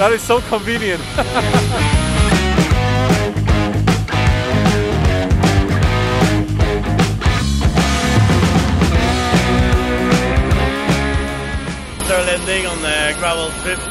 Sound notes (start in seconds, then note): 1.1 laughs; 2.4 rock music